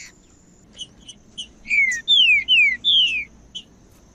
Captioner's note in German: trinca ferro cantando